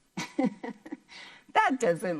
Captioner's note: laughs